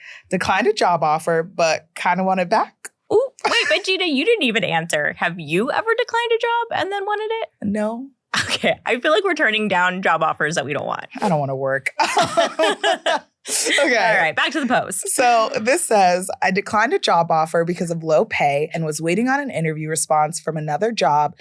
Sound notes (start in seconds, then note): 9.1 laughs; 11.9 laughing